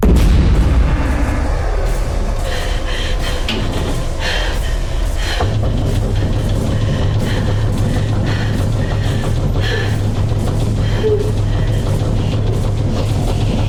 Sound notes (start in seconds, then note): 0.1 tense horror music; 2.8 Kat breathing heavily; 5.5 something banging on door